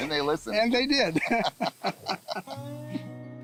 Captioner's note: laughter